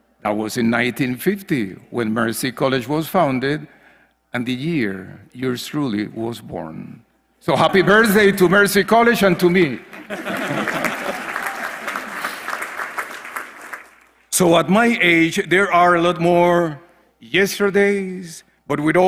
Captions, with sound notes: That was in 1950 when Mercy College was founded, and the year yours truly was born. So happy birthday to Mercy College and to me. >> [LAUGH] [APPLAUSE] >> So at my age, there are a lot more yesterdays, but